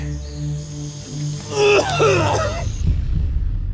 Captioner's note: vomits